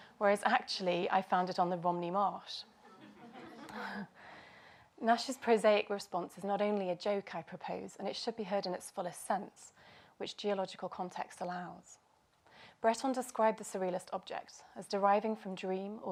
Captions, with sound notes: whereas actually I found on the Romney Marsh. [laughter]. Nash's prosaic response is not only a joke I propose and it should be heard in its fullest sense which geological context allows. Breton describe the surrealist objects as deriving from dream